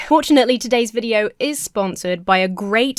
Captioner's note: none